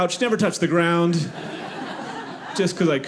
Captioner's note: audience laughing